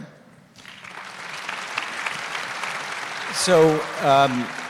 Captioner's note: applause